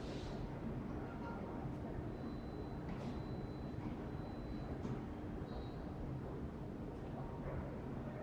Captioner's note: train